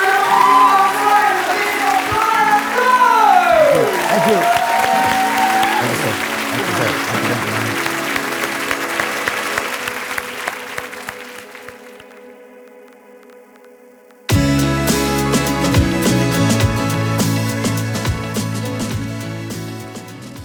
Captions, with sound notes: - Ladies and gentlemen, on stage, Mr. Brian Rose. (audience applause) (upbeat music)